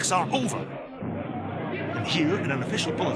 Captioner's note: plane noises